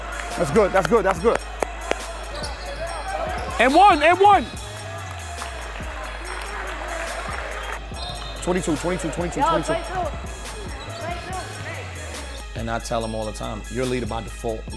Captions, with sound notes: That's good, that's good, that's good. (claps) (overlapping chattering) And one, and one! (audience applauds) 22, 22, 22, 22. (overlapping chattering) And I tell him all the time, you're a leader by default,